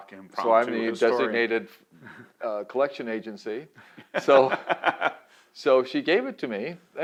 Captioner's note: laughs